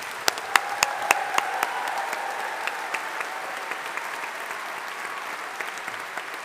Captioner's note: audience applauding; audience cheering